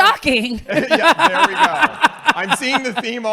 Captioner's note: laughing